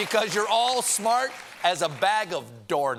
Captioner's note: applause